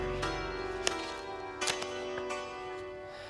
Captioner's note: upbeat music; audience tittering; envelope rustling